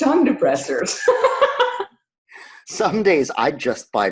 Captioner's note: laughs